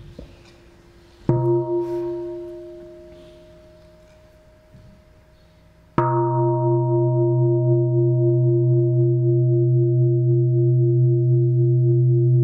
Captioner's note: sound of the bell